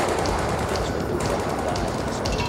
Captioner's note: guns firing